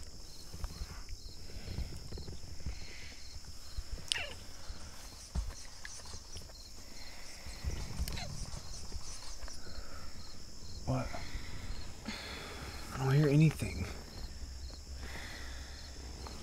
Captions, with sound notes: (strange scratching sounds) What? I don’t hear anything.